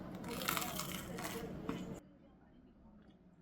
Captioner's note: crunch 2